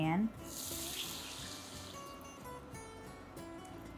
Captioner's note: sauce sizzles